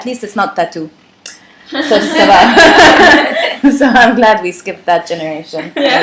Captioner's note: laughter